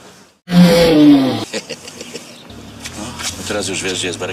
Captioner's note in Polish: się śmieje